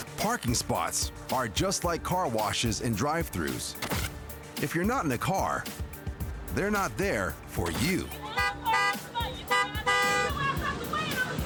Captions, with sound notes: Parking spots are just like car washes and drive-throughs. If you're not in a car, they're not there for you. (horn honking)